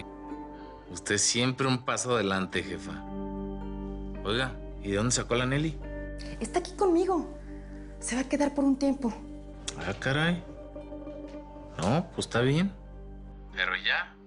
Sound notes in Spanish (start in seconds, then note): none